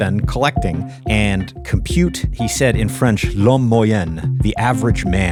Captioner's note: speaks in French